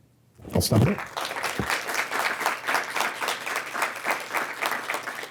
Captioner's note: audience clapping